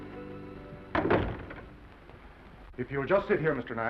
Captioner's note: sentimental music; door closes